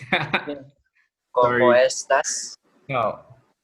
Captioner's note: Spanish